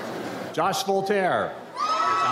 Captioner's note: audience cheers